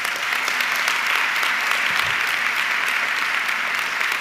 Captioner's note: audience clapping